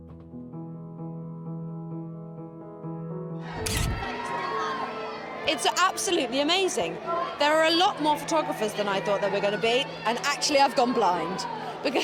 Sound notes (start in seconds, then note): 0.0 mellow music; 3.6 cameras flash; 3.9 crowd shout